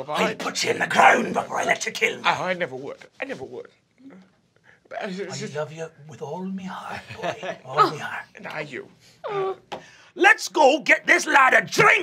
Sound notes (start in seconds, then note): 3.5 stuttering